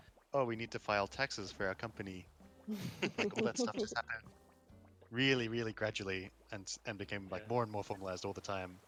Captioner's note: laughter